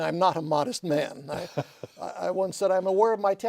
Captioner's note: laughter